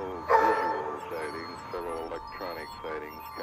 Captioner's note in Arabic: نباح الكلب; موسيقى جو من عالم آخر